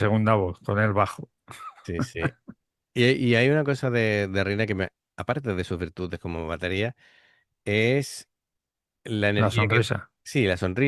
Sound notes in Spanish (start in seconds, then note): 1.5 risas